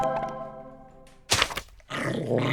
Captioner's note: growls; gasps